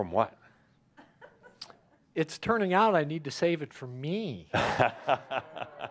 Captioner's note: laughter